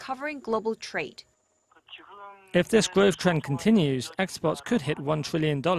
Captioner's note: Korean